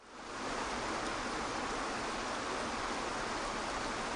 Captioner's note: water rushing